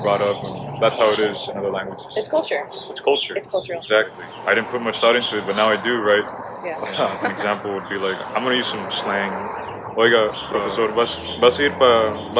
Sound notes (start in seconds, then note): 9.9 speaks in Spanish